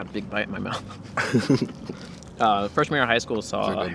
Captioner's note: both laugh